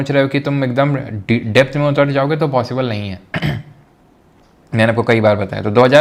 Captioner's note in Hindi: गला साफ़ करने की आवाज़